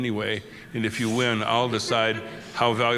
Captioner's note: laughter